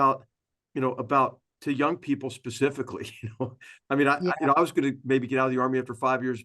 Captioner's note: laugh